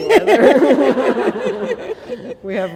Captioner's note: laughter